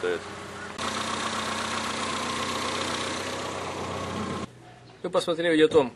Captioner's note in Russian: слышен звук работы мотора